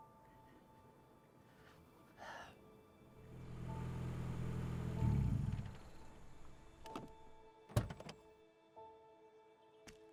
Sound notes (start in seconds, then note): 0.3 gentle music; 3.2 car whirring